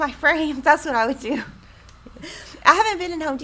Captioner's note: chuckles